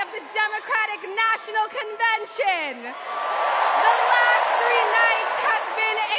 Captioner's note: cheers and applause